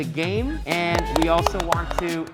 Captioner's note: students clapping